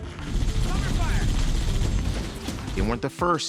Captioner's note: gunfire and yelling